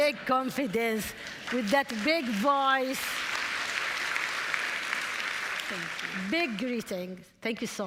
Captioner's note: applause